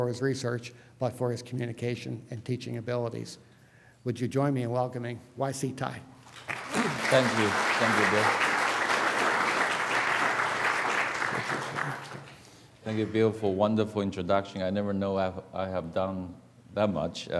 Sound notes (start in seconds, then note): 8.6 applause